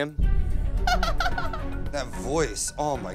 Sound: laughs

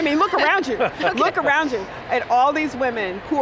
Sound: laughing

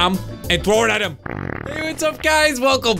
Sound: farting noise

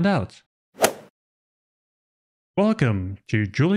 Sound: golf ball hit sound effect

